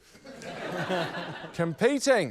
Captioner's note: laughter